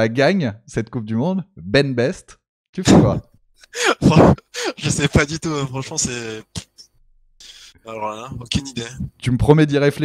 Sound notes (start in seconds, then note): 3.6 laughs